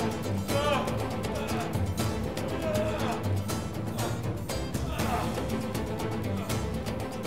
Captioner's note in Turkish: Müzik - Gerilim; İnleme sesi